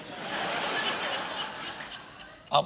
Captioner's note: laughter